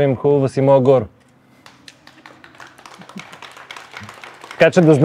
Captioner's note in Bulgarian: aплодисменти